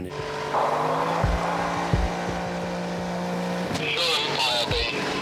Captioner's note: motor whirring